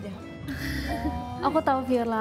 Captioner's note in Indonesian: Ketawa